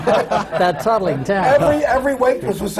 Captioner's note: laughter